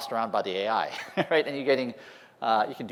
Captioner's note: laughter